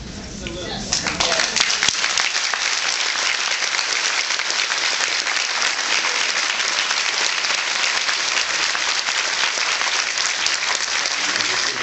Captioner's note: applauds